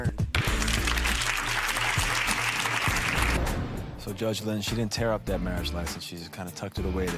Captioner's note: crowd clapping